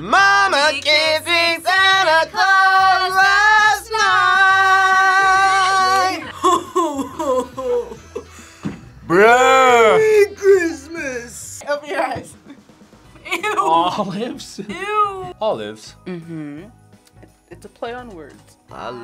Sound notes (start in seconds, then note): 13.7 laughs